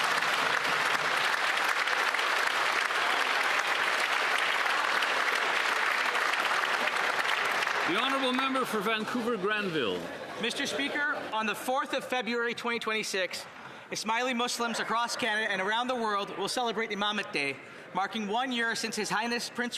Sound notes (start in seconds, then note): 7.1 some Applause